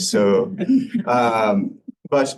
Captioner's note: laughter